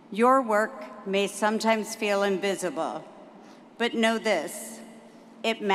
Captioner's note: none